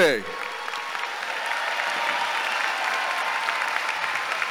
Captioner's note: audience cheering